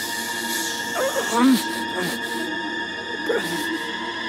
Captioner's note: suspenseful music continues; Reese groans